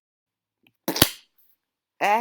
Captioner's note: shpWCK